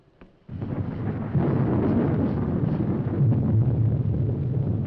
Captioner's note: thunder rumbling